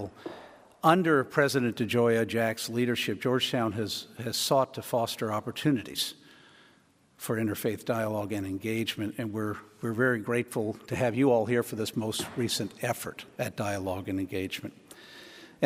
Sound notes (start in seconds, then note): none